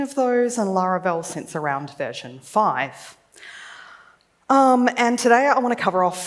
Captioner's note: none